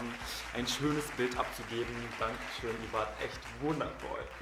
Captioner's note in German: eingespielter Applaus im Hintergrund